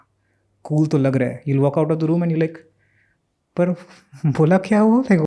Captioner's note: speaks in Hindi